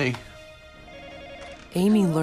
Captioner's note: telephone rings